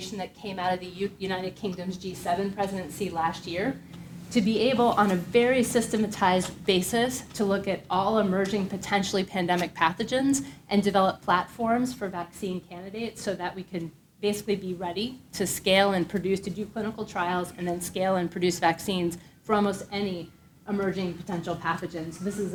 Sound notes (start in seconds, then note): 19.0 siren wailing